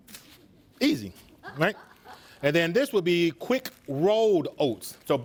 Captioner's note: students laugh